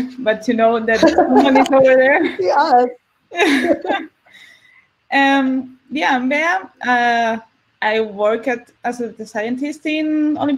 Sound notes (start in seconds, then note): 3.2 laugh